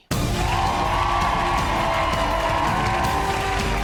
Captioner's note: cheering and applause